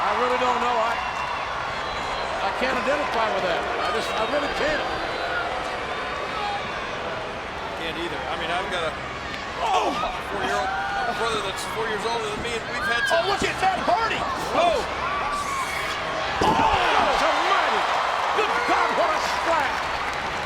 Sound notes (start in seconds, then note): 5.3 audience chattering; 16.2 bodies thud